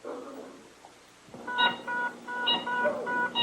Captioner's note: rapid beeping